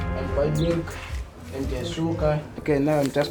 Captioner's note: speaks in foreign language